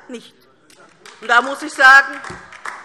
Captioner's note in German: Beifall DIE LINKE